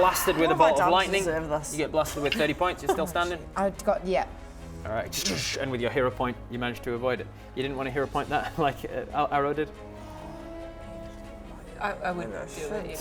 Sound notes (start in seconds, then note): 5.1 zap